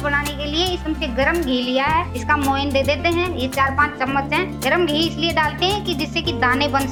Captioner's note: in local Hindi / North Indian dialect